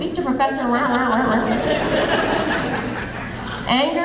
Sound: audience laughing

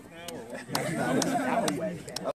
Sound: laugh

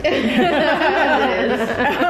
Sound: laughing

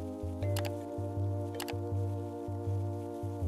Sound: keyboard clicking

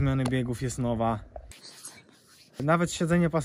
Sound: whispers

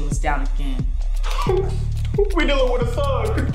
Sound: whimpering

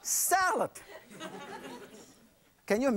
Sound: audience laughs

